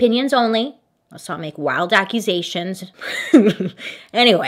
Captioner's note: laughing